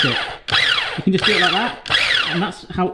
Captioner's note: whizzing